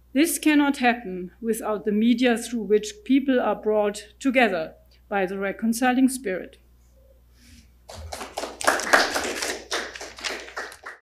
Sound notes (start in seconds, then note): 7.9 audience applauds